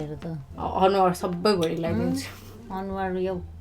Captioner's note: sniggers